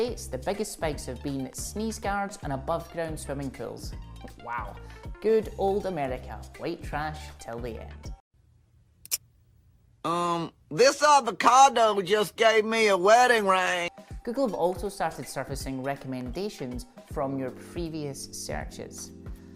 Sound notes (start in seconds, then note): 9.0 click